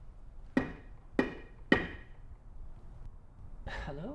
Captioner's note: tapping